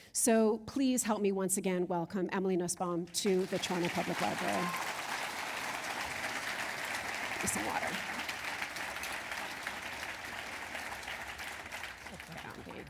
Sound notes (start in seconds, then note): 6.2 applause